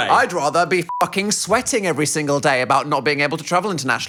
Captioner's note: beep